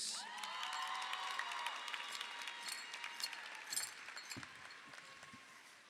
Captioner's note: audience cheers; audience applauds